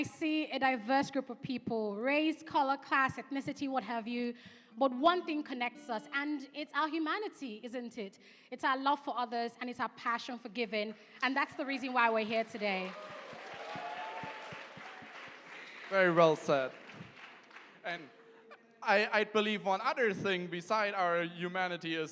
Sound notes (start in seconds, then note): 12.4 cheering and applause